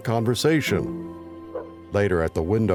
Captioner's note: dog barks